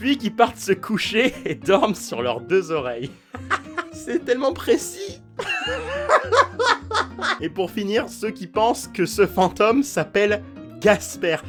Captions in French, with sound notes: puis qui partent se coucher et qui dorment sur leurs deux oreilles. [rire] C'est tellement précis ! [rire] [fou rire] Et pour finir ceux qui pensent que ce fantôme s'appelle GASPER